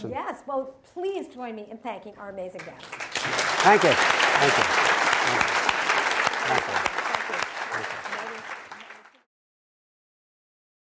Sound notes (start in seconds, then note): 2.6 audience applauds; 5.7 audience applauding; 8.2 audience applauding